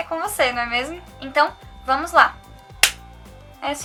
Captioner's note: joyful clap